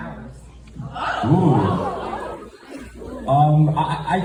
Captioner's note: audience gasps